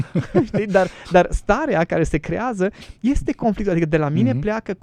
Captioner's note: laughter